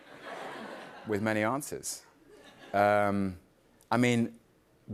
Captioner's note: light laughter